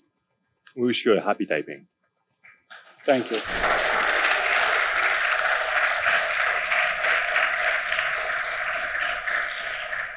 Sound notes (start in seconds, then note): 3.0 audience applauds